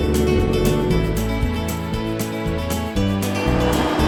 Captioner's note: boat motor; wind rustling; atv rumbling